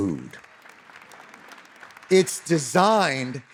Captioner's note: audience applauding